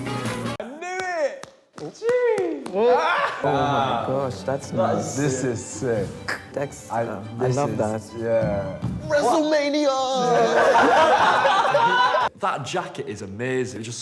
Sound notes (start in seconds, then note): 1.3 claps; 2.9 laughs; 10.1 group laughs